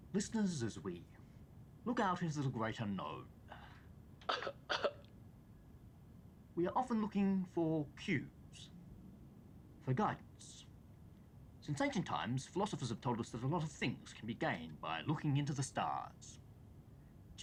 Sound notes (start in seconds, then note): 4.2 cough track playing